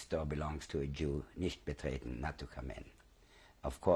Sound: german

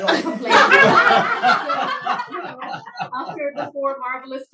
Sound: laughing

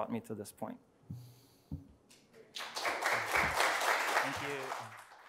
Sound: audience applauding

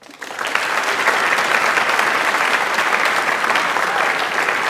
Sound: audience applauds

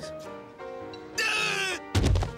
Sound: yells

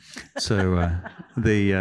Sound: laughter

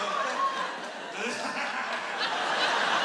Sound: laughs

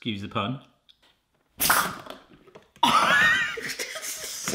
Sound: hiss and crack

